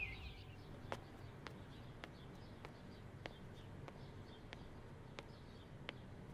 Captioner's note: Footsteps